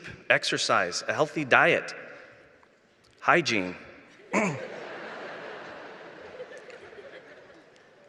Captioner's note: laughter